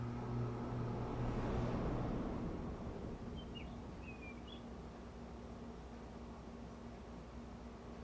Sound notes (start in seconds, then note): 3.3 birds chirping